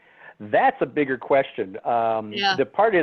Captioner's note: laugh